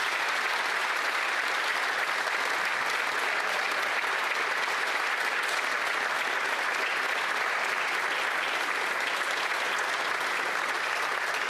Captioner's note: applause